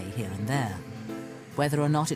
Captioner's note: voiceover